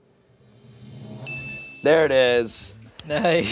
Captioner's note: chime dings